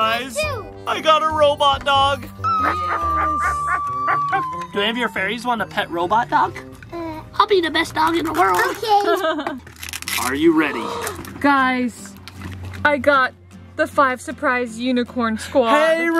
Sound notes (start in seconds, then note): 2.4 squeals; 2.7 barks; 8.9 laughs; 10.8 gasps